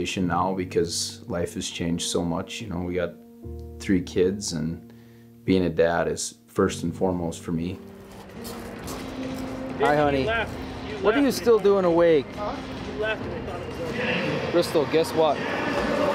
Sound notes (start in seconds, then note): 9.6 cowboys chatting; 15.3 loudspeaker bellowing